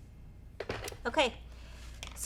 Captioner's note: iron box thudding